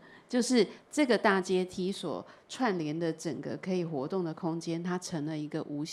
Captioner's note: Mandarin